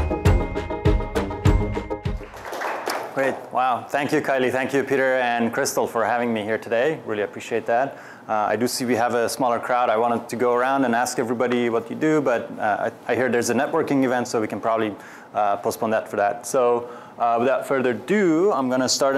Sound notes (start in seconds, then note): 2.0 applause